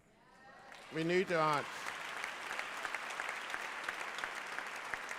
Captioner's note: applause